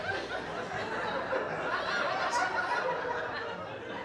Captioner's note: audience laughing